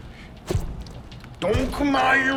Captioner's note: squishy stomping